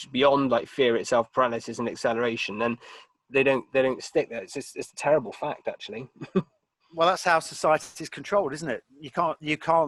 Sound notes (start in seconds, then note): 6.1 laughing